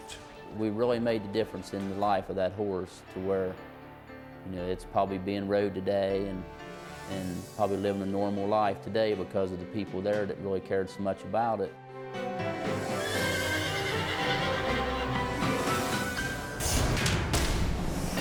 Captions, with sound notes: - We really made the difference in the life of that horse to where, you know, it's probably being rode today and probably living a normal life today because of the people there that really cared so much about it. (bright music) (Toughie neighs) (dramatic music)